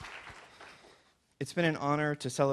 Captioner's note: applause